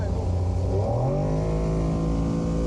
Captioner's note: boat engine revs